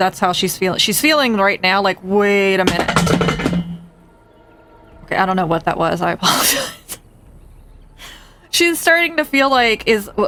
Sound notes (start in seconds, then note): 2.6 clanging noise; 6.2 laughs